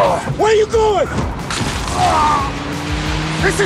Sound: groans

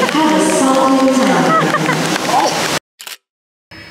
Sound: round of applause!

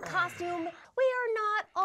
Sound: grumbles

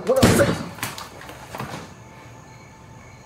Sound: gun fires

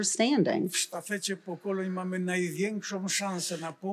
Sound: foreign language

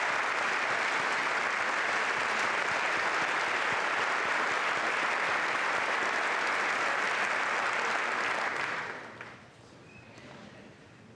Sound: applause

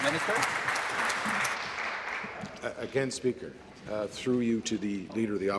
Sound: applause

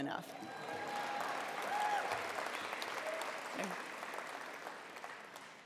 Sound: attendees applauding and cheering

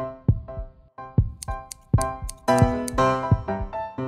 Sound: scissor snipping sound

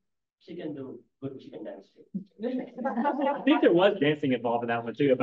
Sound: laughing

